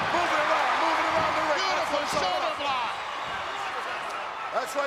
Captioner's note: audience cheering